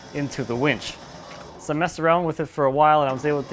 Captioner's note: engine whirring